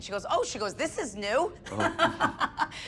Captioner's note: laughs